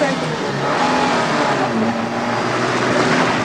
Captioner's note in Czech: řev motoru